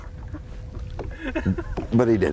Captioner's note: laughter